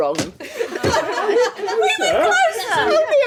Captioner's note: laughing